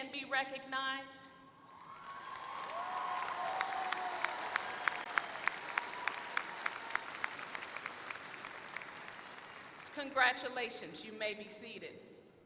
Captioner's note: applause